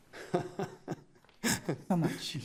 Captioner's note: laughs